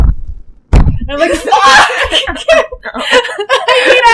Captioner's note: thump, thump, thump; laughter